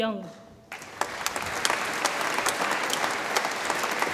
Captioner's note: audience applauds